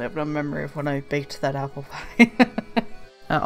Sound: laughs

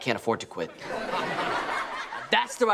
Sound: laughing

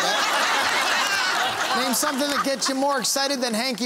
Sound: laughing

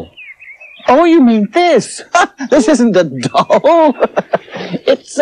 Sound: laughs

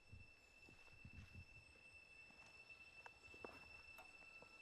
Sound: footsteps

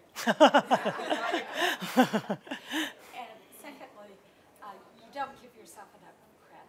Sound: laughter

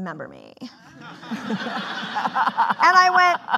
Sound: laughing

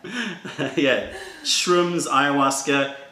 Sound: laughter

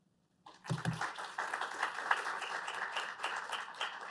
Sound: applause

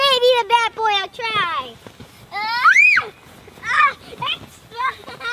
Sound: screaming and laughing

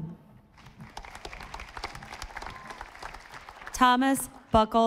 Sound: audience applauding

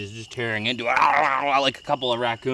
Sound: growls

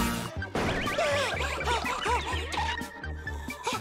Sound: panting

